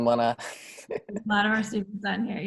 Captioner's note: laughing